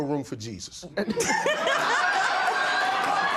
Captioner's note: laughter